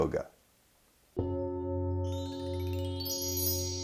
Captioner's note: chimes ring; metal bowl rings